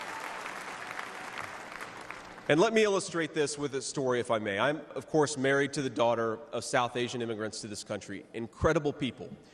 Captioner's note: cheers and applause